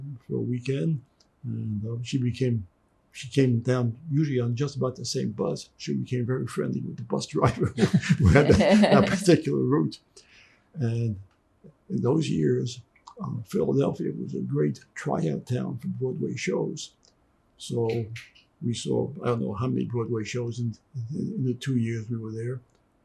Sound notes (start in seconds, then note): 9.8 laughing